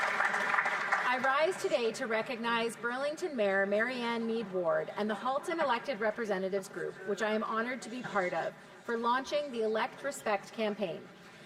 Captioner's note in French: voix de l'interprète